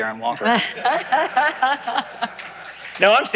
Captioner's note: laughter